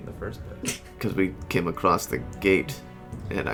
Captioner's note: haltingly